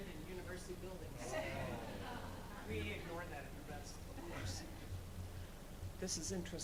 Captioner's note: speaking off mic